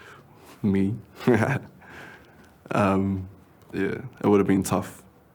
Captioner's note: laughs